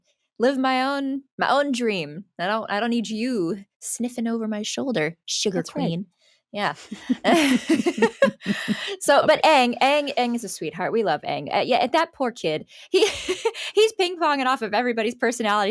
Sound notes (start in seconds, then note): 6.8 they laugh; 13.0 laughing